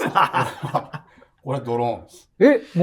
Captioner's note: laughing